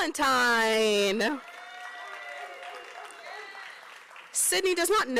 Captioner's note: applause